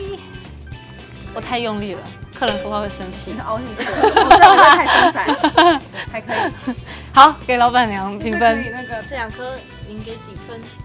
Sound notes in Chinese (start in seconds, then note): 3.8 笑到要屎